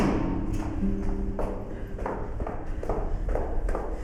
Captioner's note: footsteps